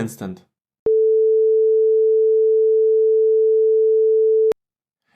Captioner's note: monotone beep